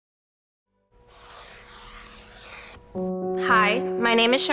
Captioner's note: marker whooshing